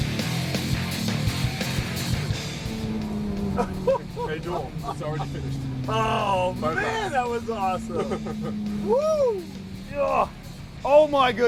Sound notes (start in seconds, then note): 3.5 laughter; 6.6 engine revs loud; 7.9 laughter